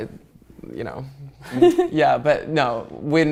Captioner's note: laughing